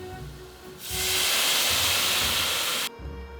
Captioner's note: simmering